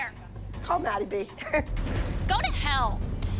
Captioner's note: Abby laughs